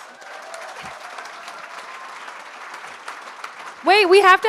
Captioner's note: cheers and applause